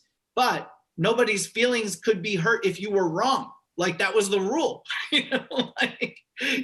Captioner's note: chuckle